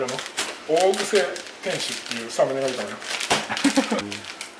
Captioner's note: laughs